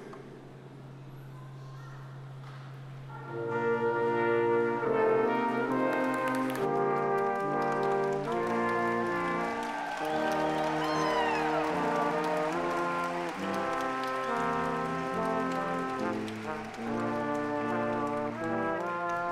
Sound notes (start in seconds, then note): 4.3 stately music; 10.5 audience applauding